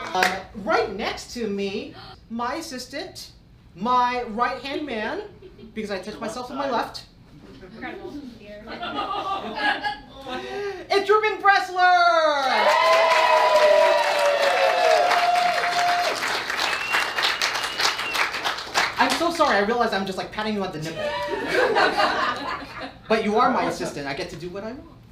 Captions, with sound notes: - Right next to me, my assistant, my right hand man, because I touch myself with my left, It's Reuben Bressler! (cheering) - I'm so sorry, I realized I'm just like patting you on the nipple. (laughing) But you are my assistant, I get to do what I want.